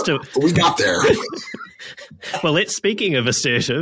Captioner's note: laughter